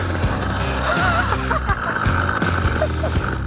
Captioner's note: laughing